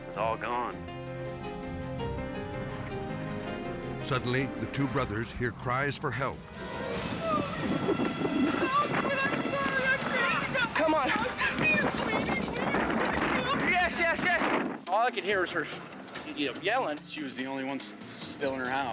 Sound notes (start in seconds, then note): 0.6 solemn music; 6.4 suspenseful music; 6.4 voices crying